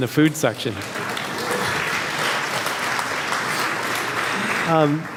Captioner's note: audience applauds